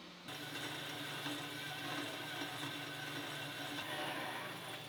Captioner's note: machine humming